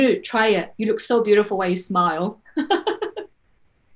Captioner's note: laughing